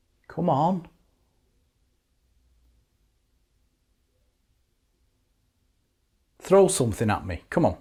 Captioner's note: silence